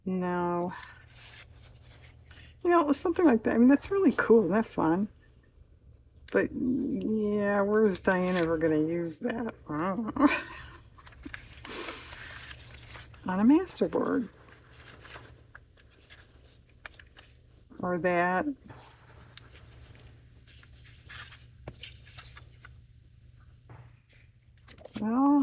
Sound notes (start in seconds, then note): 10.1 laughs